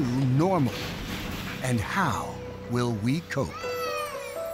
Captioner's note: baby crying